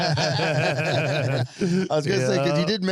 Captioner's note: laughing